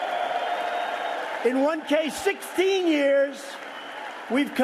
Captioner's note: cheers and applause